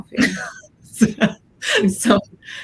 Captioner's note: laughs